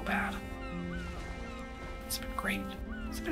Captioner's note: seagulls crying